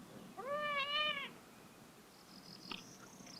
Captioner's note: cat meowing